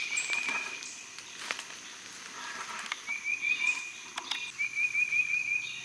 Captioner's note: birds and bugs chirping